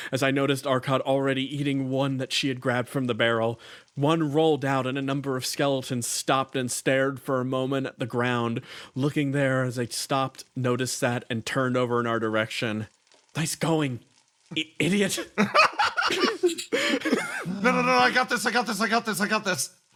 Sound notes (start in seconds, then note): 15.1 laughs